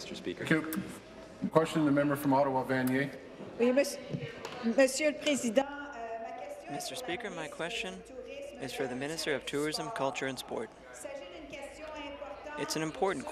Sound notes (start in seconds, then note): 8.3 speaking in French